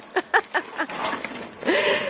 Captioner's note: laughing